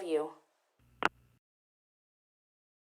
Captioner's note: phone click